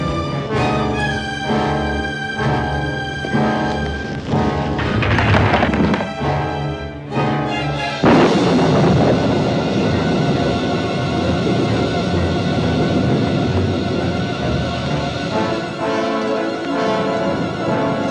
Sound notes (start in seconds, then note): 8.0 thunderclap